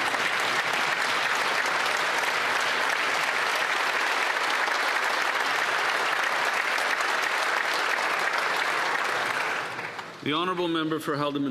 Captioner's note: some Applause